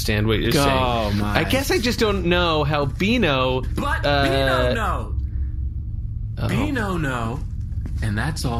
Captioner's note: shouting